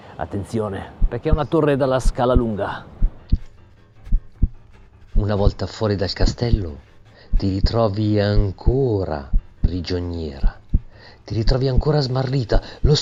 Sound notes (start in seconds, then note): 4.0 heartbeat, shortness of breath